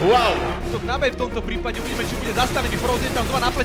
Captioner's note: announcer speaks foreign language